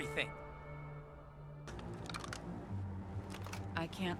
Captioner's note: brooding music; crossbow cocking